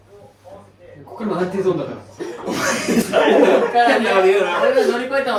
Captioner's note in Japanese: 笑い